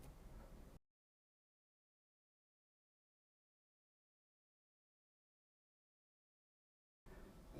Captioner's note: silence